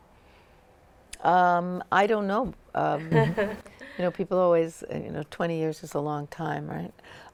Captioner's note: laughter